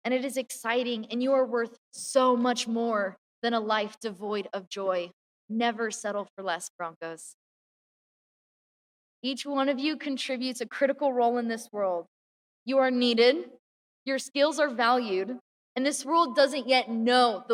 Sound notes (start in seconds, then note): none